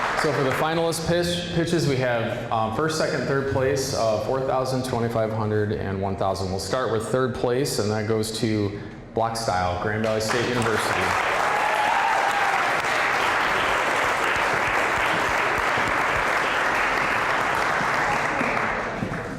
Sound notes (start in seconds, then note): 0.0 applause; 11.2 applause, cheering; 14.2 applause